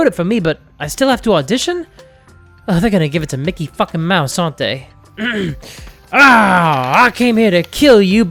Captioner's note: clears throat